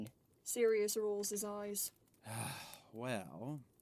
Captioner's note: exaggerated sigh